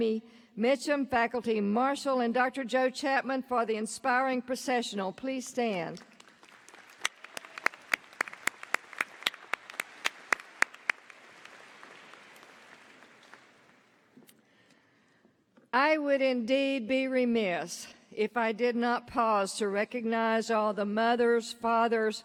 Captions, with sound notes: OUR GRADUATES, BUT ALSO A DAY OF CELEBRATION FOR THE UNIVERSITY. AS WE BEGIN OUR CEREMONY, PLEASE JOIN ME IN THANKING DR. JAMIE MITCHEM, FACULTY MARSHAL, AND DR. JOE CHAPMAN, FOR THE INSPIRING PROCESSIONAL. PLEASE STAND. [APPLAUSE]